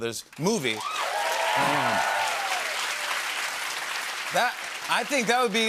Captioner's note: cheers and applause